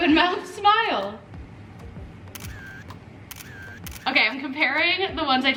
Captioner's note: camera clicking